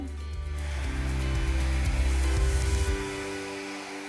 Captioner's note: dryer whirring